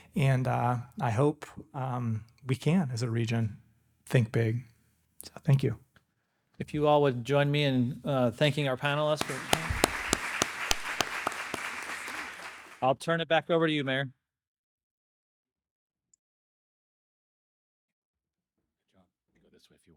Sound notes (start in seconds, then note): 9.0 audience applauding